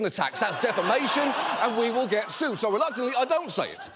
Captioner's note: audience exclaiming